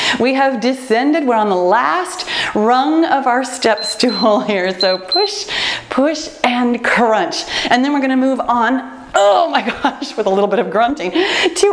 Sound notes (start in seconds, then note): 3.6 timer beeps